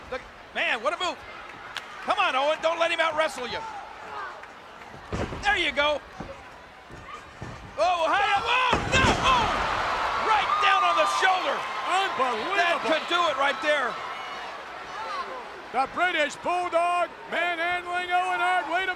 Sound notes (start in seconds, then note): 9.9 audience cheers